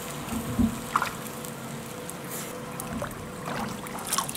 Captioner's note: splashing